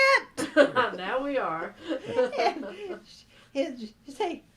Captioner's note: yells; laughter